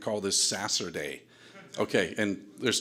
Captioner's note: audience laughter